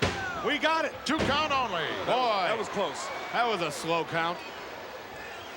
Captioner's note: none